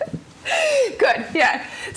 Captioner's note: laughter